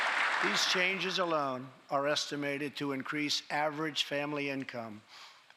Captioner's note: applause